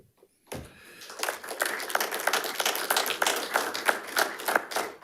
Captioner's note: audience applauding